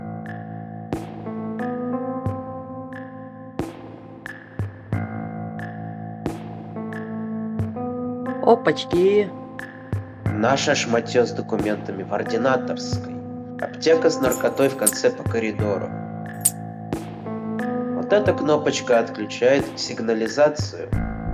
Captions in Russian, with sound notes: – Опачки. – Наше шмотьё с документами в ординаторской. Аптека с наркотой в конце по коридору. (звон ключей) Вот эта кнопочка отключает сигнализацию.